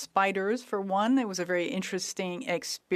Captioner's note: speaking French